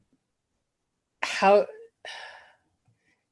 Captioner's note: sigh